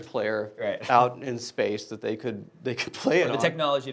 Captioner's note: laughing